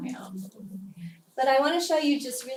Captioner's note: laugh